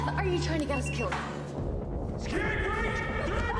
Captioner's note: door lock beeping